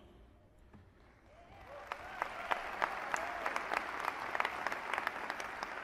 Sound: applause

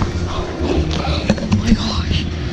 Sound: heavy breathing

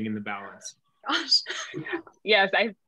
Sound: laughing

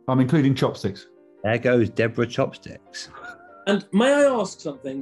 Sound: sniggering

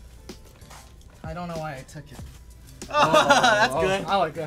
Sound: laughing

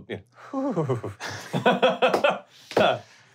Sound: laughing; stammers

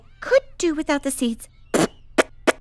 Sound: spits

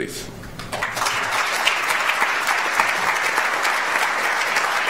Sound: audience applauds

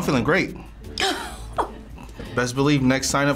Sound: laughs

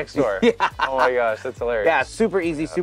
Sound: laughs

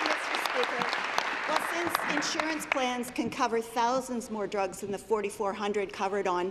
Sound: applause

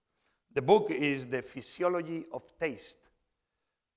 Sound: none

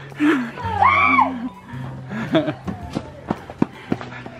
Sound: screaming

